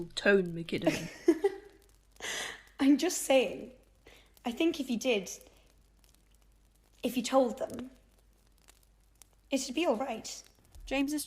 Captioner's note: Marlene laughs